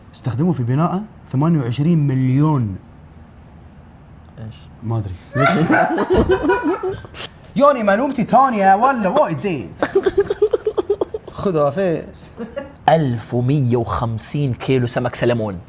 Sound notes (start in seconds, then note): 5.3 everyone Laughs; 9.8 laughs